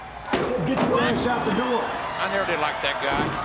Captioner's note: audience cheers